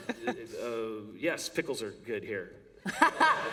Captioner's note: laughter